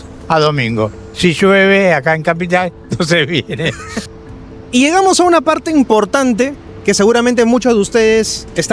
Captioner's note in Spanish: risas